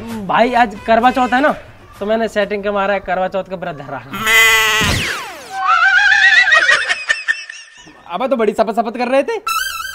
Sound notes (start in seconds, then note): 4.1 funny sounds playing